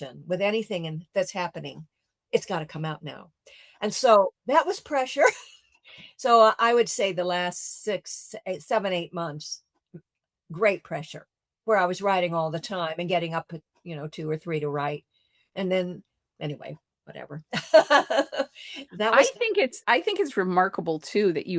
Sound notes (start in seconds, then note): 17.6 laughs